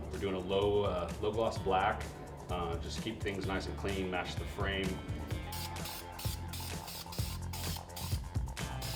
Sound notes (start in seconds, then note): 5.5 spraying